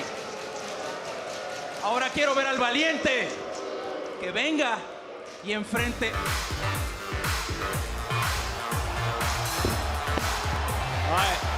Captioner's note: speaking spanish